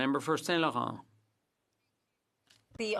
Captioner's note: speaking French